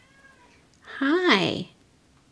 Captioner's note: cat meows